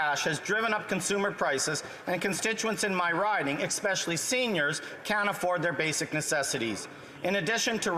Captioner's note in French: voix de l'interprète